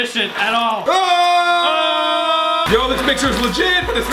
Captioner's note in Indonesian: jeritan